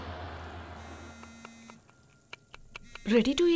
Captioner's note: Phone vibrating